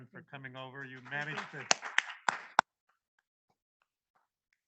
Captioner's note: audience claps